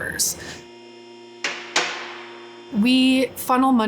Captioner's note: automobile lift whirring